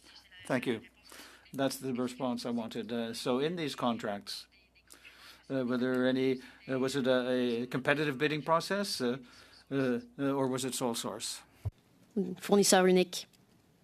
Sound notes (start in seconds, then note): 1.1 speaking French